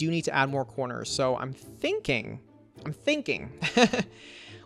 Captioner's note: laughs